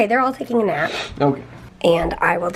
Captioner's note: sneezing